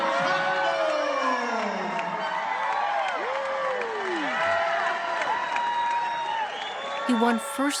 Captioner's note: applause/cheers